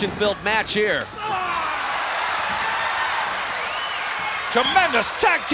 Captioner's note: audience cheering